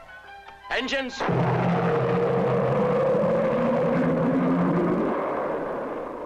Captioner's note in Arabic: هدير محركات الصواريخ